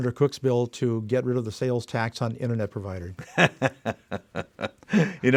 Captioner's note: laughs